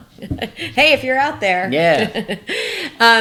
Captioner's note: laughs